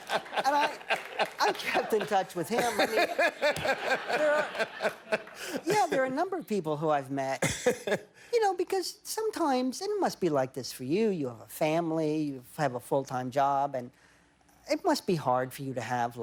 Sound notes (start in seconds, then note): 2.3 laughter